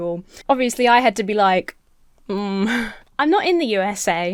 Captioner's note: hums uncertainly